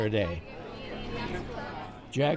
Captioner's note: overlapping chatter